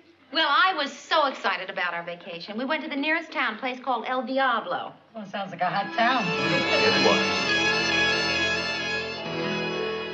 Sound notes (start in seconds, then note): none